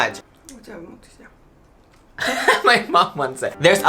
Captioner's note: mom speaking Japanese